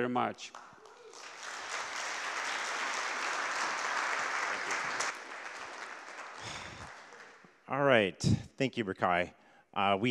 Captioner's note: applause